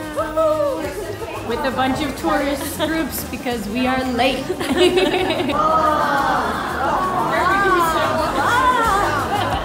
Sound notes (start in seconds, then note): 4.4 all laughing; 4.6 crowd oohing and ahing